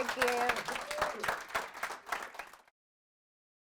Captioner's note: applause